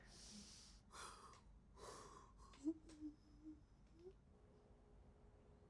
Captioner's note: Mrs. Hill sobs lightly